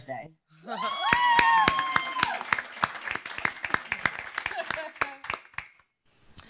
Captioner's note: cheers; applause